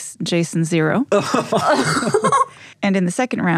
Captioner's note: laugh